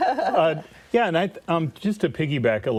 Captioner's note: laughter